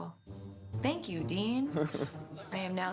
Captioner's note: chuckles